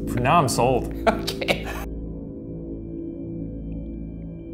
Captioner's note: laughs